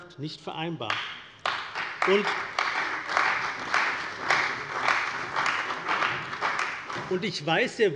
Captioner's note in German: Beifall bei der CDU und dem BÜNDNIS 90/DIE GRÜNEN